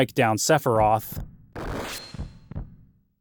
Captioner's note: sword slices; heart pounding